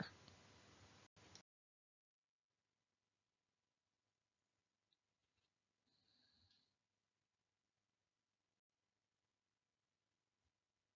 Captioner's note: silence